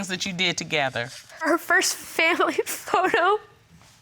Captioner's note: sobbing